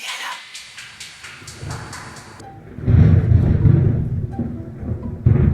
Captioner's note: thunder rumbling